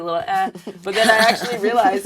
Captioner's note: laugh